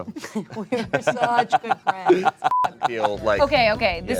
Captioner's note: laughs